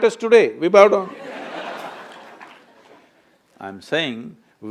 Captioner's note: laughter/Applause